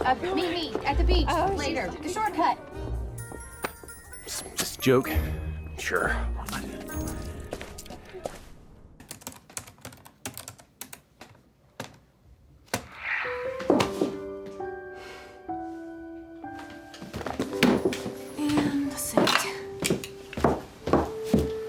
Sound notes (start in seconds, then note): 9.0 typing; 13.7 dropping hands, sighs heavily